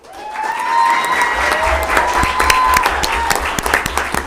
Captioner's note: audience applauding